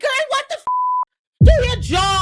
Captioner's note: beep